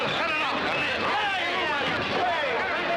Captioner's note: clamoring